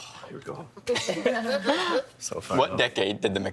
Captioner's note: laughing